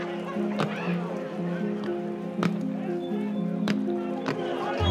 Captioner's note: guns popping